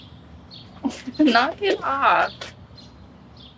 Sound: laughs

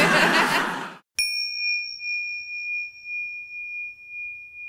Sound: audience laughs; bell dings

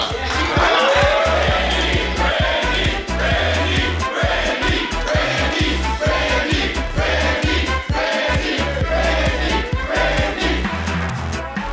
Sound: crowd chanting: " "

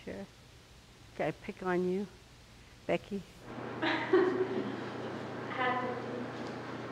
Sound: laugh

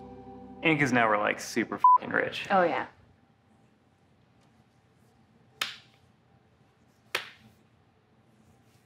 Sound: smack

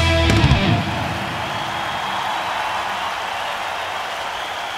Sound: audience cheers

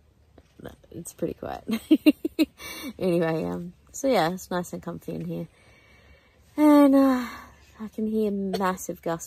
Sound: giggles; coughs

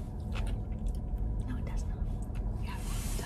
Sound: whispers

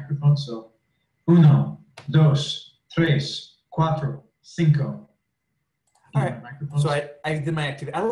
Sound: recording plays

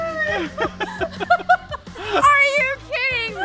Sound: laughing

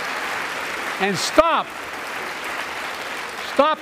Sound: applause

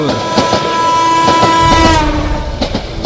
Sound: train honking

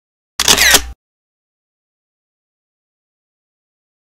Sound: camera shutters

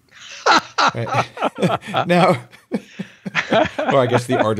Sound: laughs

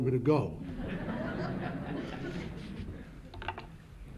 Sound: laughter

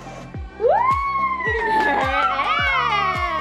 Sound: cheers

